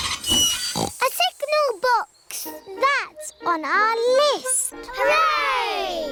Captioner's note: tinging; oinks